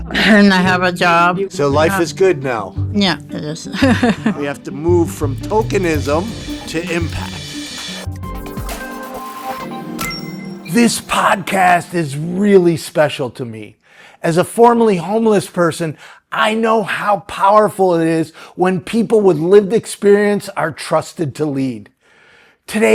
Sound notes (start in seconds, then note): 3.7 chuckling; 8.0 upbeat music